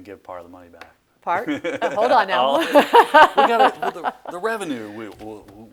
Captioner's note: laughs